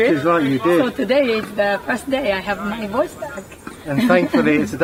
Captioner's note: laughs